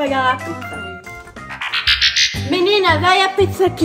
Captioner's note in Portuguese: efeito de transição de cena